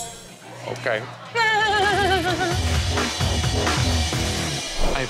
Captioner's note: laughs